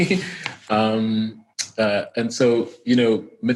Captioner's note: laughing